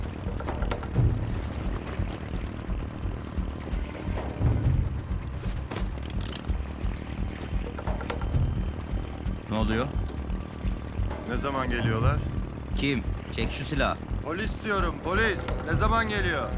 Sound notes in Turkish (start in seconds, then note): 0.3 Müzik - Gerilim; 5.6 Şarjör sesi